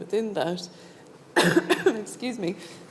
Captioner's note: coughing